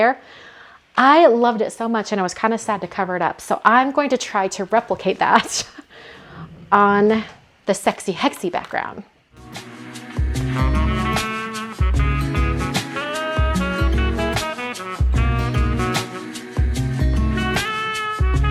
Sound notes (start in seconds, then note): 5.2 laughing; 9.7 happy music